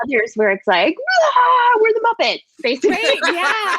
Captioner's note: screams; laughter